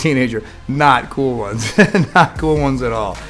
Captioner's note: laughs